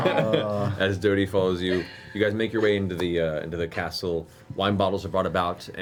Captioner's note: chuckles